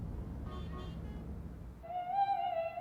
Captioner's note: horn honking; opera music